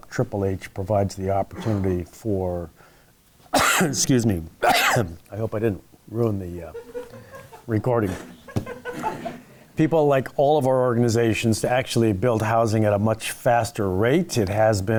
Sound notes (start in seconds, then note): 4.6 coughing; 8.0 laughing